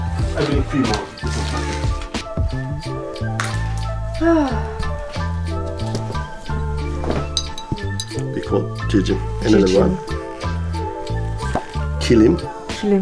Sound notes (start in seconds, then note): 4.2 sigh